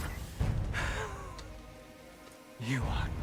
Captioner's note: laugh